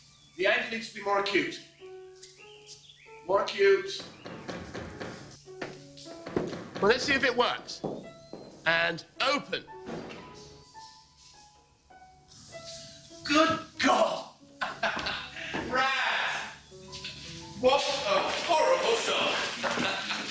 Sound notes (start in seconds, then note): 3.9 knocking on door